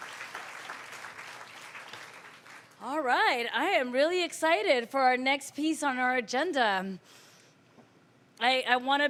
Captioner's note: applause